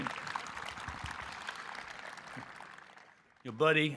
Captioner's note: audience clapping